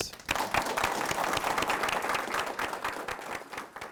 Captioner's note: clapping